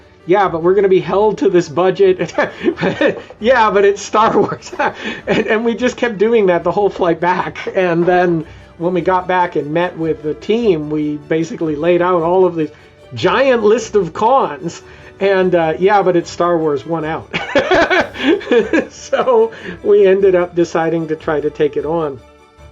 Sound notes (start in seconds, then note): 2.2 laughs; 17.3 laughs